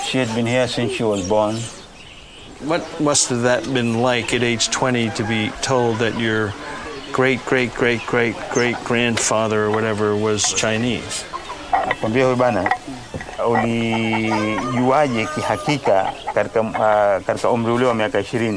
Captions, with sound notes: - She had been here since she was born. - What must have that been like at age 20 to be told that your great-great-great-great-great grandfather or whatever was Chinese? (both speaking in foreign language)